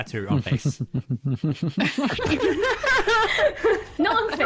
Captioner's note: steadily increasing laughter